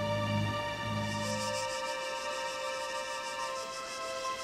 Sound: insects chirp

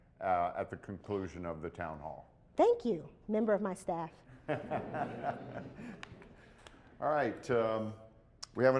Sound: laughter

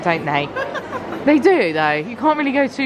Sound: laughs

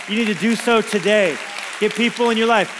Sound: congregation applauds

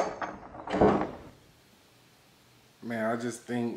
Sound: door closes

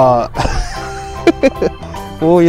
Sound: laughs

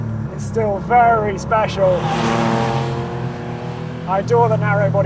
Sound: engine roars

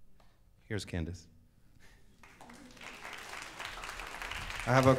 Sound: audience applauds

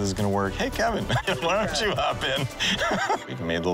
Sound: laughing

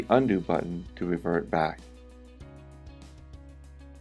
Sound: silence

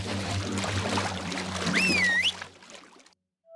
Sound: whistles

